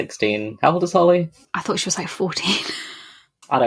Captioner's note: laughing